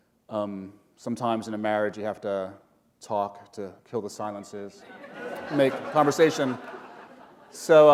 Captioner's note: laughter